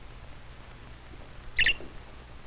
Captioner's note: chirping